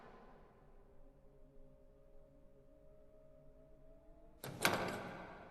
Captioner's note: doorknob jiggling